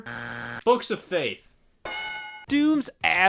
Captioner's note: buzzer buzzing; bell ringing